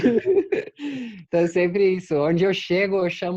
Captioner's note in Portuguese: risos